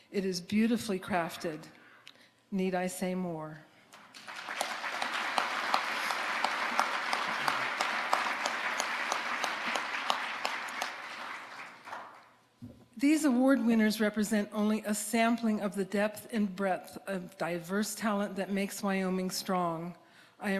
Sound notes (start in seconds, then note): 3.9 audience applauding